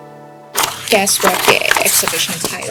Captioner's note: Cantonese